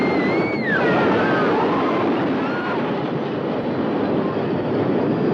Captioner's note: woman screaming; people screaming; roller coaster rattling